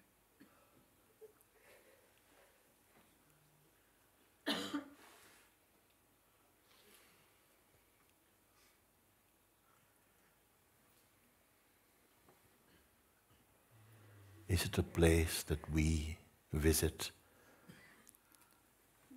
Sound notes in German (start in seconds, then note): 1.0 Stille